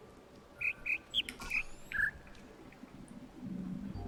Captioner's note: bird chirps ˧ ˧ ˥ ˧ ˩